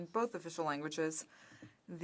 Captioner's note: speaking French